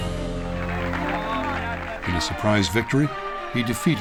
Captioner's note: cheering and indistinct chatter